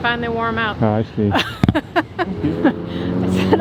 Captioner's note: laughs